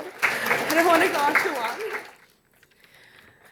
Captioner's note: audience applauding